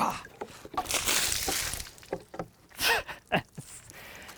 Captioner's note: water sloshing; laughs